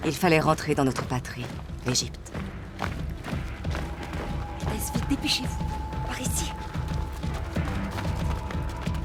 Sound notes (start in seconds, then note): 2.1 footsteps thudding